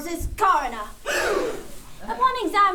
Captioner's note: gasp